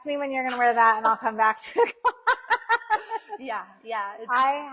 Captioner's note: laughing